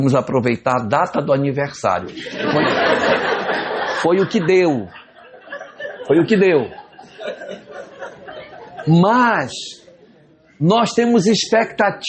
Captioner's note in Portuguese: risadas